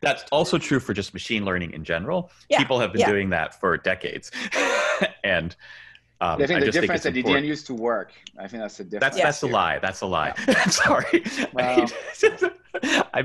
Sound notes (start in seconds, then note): 4.4 laughs